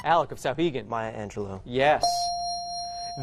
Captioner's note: dinging